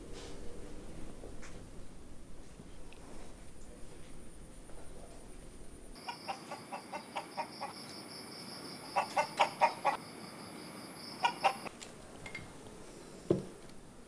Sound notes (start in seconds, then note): 6.0 cluck cluck